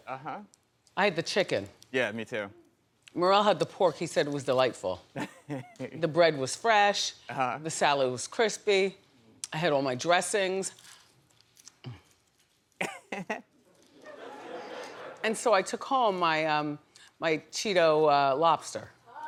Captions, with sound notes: It was, uh huh. I had the chicken. Yeah, me too. Merrell had the pork. He said it was delightful. The bread was fresh. The salad was crispy. I had all my dressings. (laughing) And so I took home my cheeto lobster.